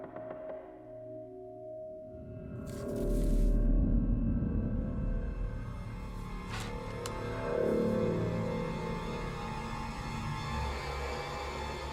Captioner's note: floors creaking